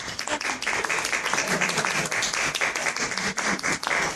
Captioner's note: applause